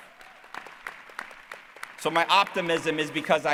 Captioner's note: cheering